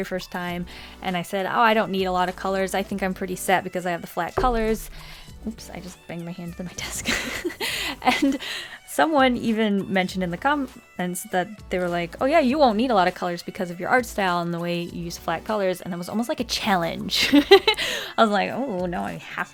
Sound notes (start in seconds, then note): 4.4 bump